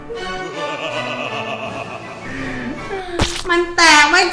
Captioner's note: father laughs